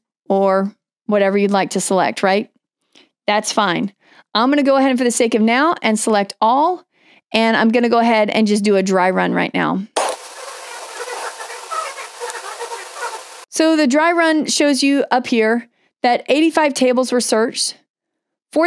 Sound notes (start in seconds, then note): 10.0 processing sound